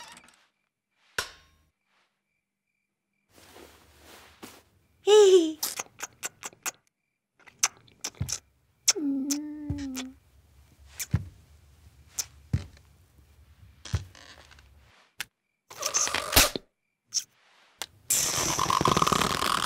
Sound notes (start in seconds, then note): 5.2 giggles; 10.9 footsteps